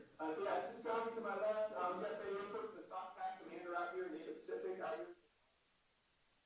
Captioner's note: static drowns out